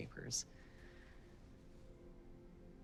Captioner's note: deep breath